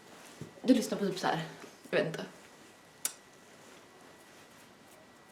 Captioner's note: lip smack